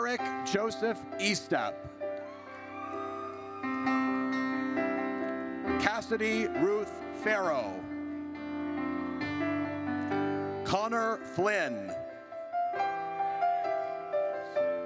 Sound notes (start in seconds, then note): 2.2 audience cheers; 8.1 gentle music; 12.2 gentle music